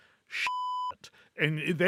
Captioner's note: beep